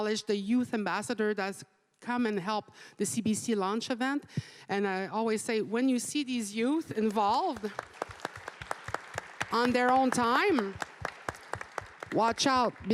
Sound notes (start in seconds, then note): 7.0 applause